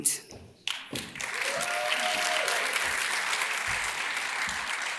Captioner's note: audience claps and cheers